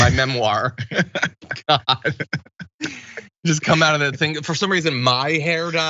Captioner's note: laugh